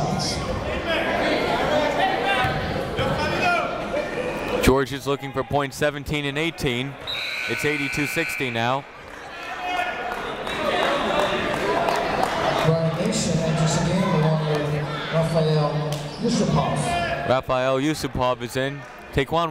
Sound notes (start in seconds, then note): 0.1 chatter; 10.4 clapping; 12.9 chatter